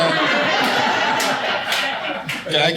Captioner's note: audience laughing